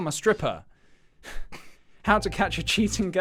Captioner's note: giggle